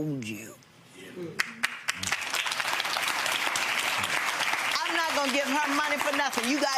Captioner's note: audience clapping